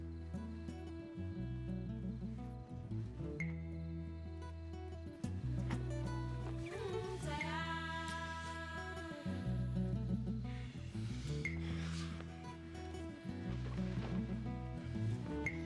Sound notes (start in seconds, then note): none